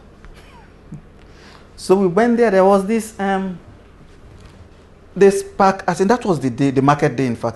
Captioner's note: laughs